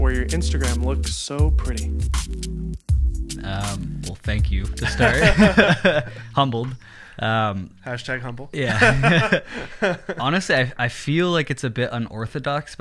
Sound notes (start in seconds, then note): 2.0 laid-back music; 4.7 laughing; 8.6 laughing